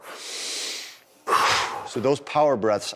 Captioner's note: sucks in air loudly; exhales loudly